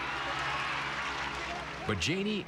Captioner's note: cheers and applause